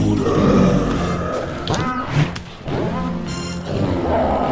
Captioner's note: riverbeast roars